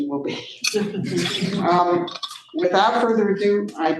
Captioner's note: everybody laughing